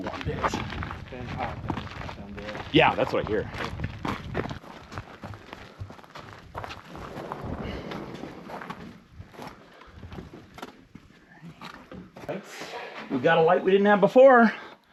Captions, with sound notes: a few warm days. - It's been hot down there. - Yeah, that's what I hear. (footsteps crunching) (sliding door whirring) Right, we've got a light we didn't have before.